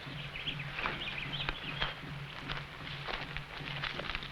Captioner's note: birds chirping